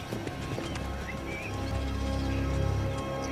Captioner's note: none